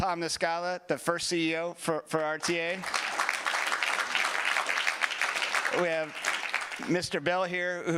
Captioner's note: applause